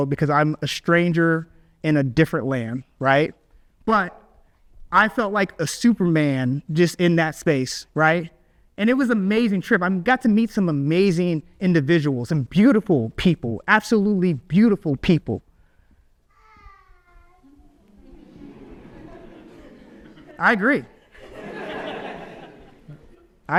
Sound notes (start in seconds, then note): 16.3 baby vocalizes; 17.8 audience laughs